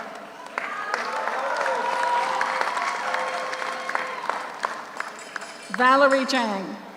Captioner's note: audience applauds; audience cheers